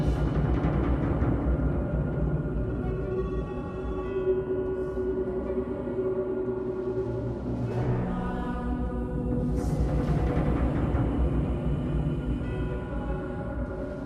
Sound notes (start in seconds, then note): 0.2 dramatic music; 4.7 eerie music; 8.4 people chanting